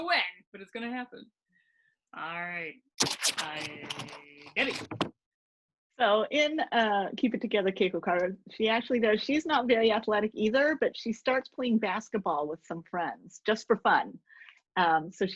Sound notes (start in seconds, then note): 3.0 scratching